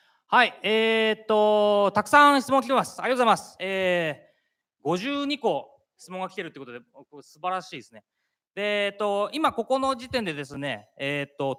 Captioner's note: speaking japanese